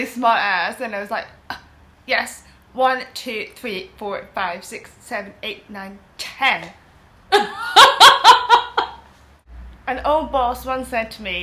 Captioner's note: laughs loud